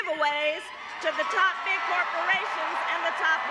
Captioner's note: cheering and applause